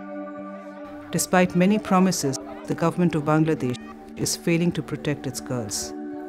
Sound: voice-over

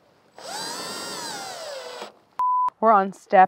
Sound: power tool buzzing

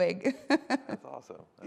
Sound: laughs

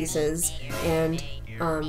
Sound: scary reveal sound effect

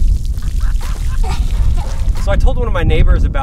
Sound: water splashing; laugh

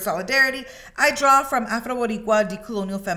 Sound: speaking in Spanish

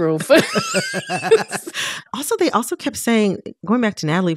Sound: laughter

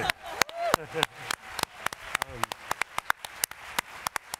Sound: applause

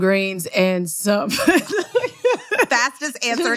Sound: laughter

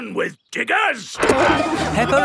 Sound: peppa and george laughing

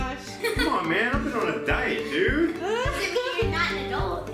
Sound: laughing

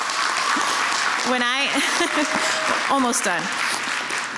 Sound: laughs

